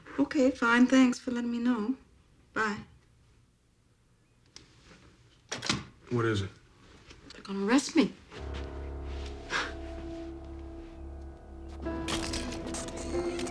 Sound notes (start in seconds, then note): 8.4 scoffs; 11.9 camera shutters clicking